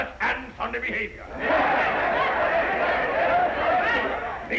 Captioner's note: crowd yelling